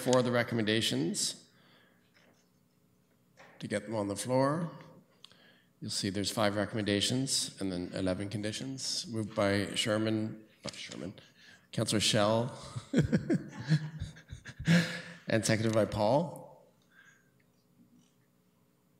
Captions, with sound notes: All right, so we need a mover and a seconder for the recommendations to get them on the floor. You'll see there's 5 recommendations and then 11 conditions. Moved by Sherman--not Sherman--Councillor Schell--[laughing]--and seconded by Paul.